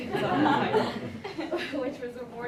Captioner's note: laughter